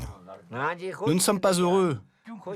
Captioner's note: foreign language spoken